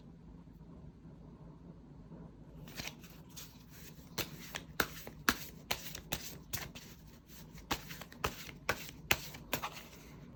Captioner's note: drawing cards